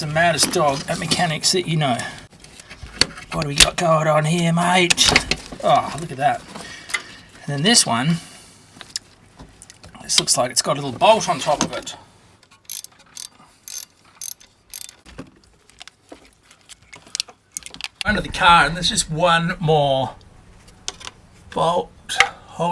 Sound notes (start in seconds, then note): 13.2 wrench cranking